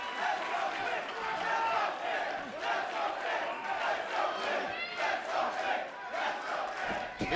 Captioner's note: fans chanting